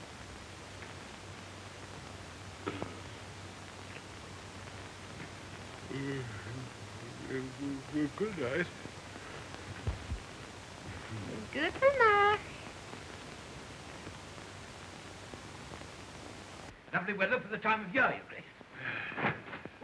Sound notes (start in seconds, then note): 5.8 yawning